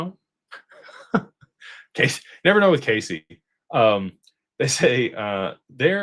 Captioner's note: laughter